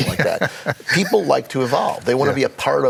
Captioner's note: laughing